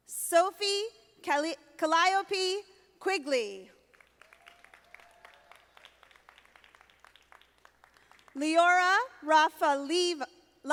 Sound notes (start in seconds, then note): 4.0 audience applauding